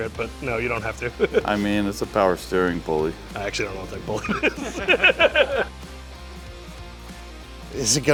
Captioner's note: laughter